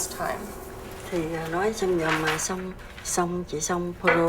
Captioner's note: speaking vietnamese